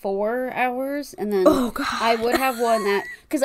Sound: laughs

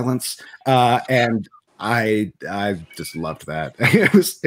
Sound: laughs

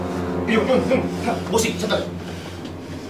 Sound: stutters

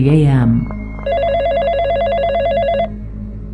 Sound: phone ringing

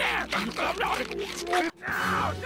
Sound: disturbing force-feeding noises

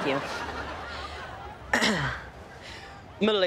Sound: clears throat

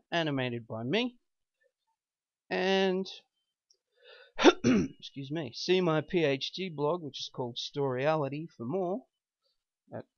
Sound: ahem - excuse me

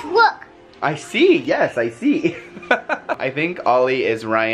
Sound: laughs

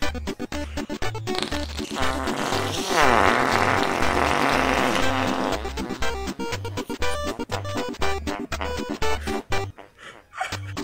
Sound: symphony of fart noises

